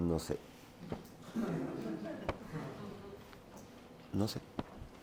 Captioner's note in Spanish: Risas